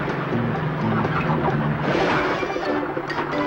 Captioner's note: horn blaring; chicken clucking; funny music